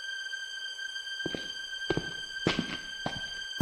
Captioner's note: footsteps